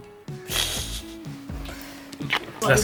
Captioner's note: chuckles